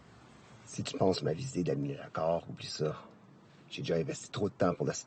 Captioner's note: LaFleur speaking in French